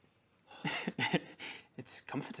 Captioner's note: mime noises